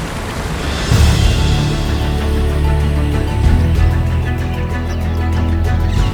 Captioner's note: gentle music continues; bird chirping